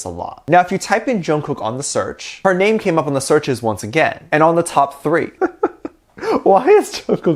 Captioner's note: laughs